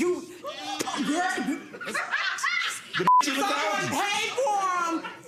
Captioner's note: laughing